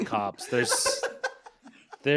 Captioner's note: everyone laughs